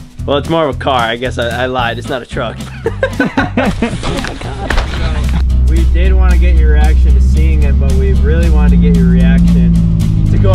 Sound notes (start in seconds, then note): 2.6 laughing